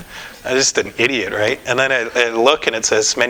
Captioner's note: none